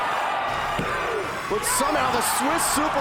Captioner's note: hand pounding